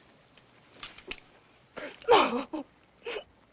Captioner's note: sobs